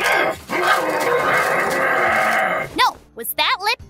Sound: Grumpy Goblin Slayer noises

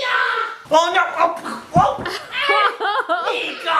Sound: grunting; laughing

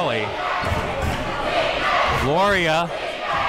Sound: crowd

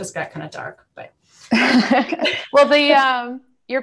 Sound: laughter

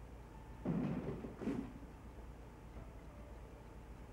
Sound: distant clunks

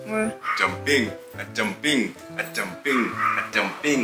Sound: laughing

